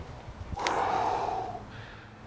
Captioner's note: blowing out